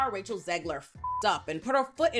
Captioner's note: beep